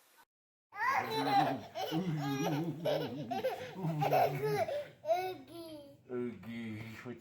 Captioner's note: laughs